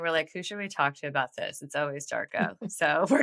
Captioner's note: <Laugh>